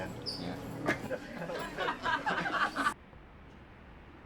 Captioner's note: laughs